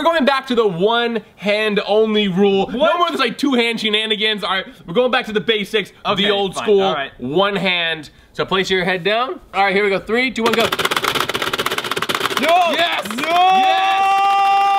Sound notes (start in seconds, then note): 10.4 game clacking